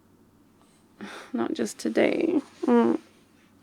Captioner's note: exasperated muffle